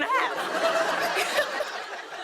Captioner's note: laughter